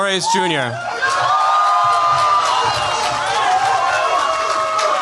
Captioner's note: cheers, applause